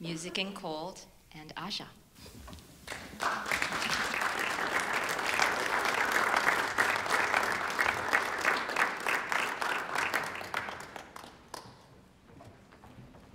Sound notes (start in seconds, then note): 2.8 applause